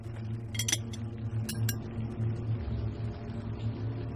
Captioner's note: clinking sound